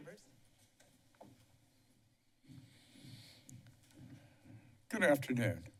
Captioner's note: silence